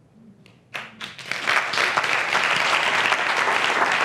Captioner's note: applause